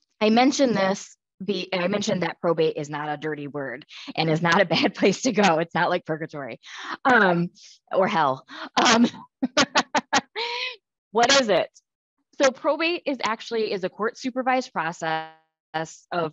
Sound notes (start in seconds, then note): 9.4 laughs